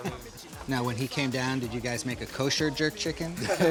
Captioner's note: laughter